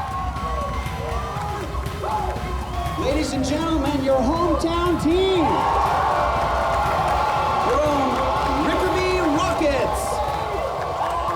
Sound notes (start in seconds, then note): 5.4 cheers and applause